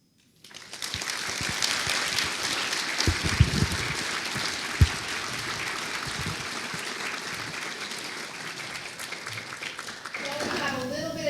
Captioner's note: audience applauding